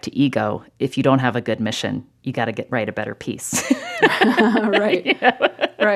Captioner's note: laughter